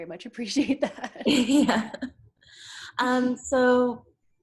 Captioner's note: laughs